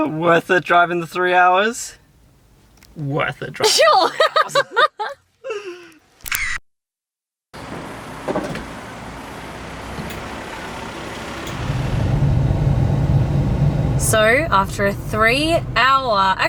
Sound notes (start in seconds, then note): 3.6 laughing; 6.2 camera shutter clicking; 7.6 distant engine running